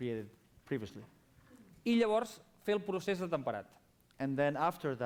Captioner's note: non-english speech